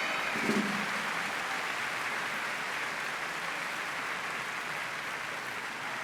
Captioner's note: applause